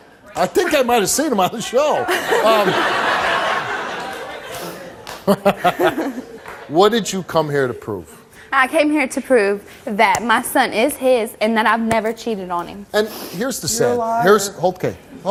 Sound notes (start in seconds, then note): 1.9 audience laughs